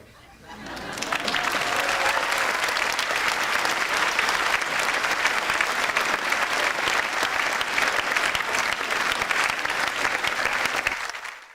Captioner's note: audience applauds